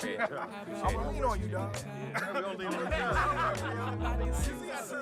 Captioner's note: chatter fades, laughter